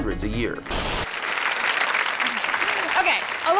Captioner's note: audience applauds